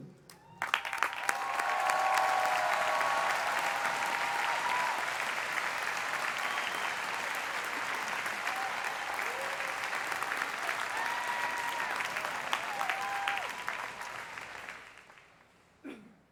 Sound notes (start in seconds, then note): 3.8 cheers and applause